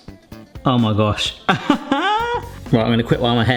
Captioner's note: bright music; laughs